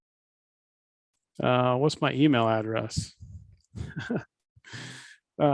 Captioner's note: laughs